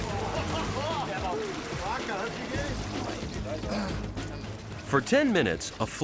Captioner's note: fishermen laughing and chatting